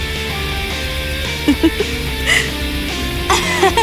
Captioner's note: weird little cute laugh